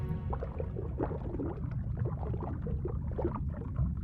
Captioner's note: water sloshes